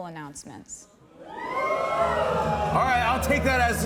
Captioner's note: audience cheers